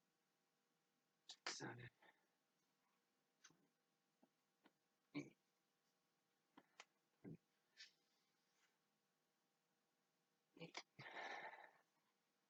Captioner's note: continues whisper counting with sighs mixed in